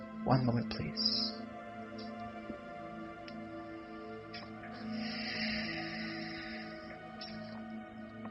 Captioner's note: deep breathing